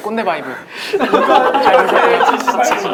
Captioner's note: laughing